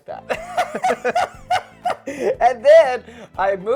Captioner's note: giggling